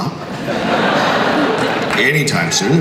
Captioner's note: crowd laughs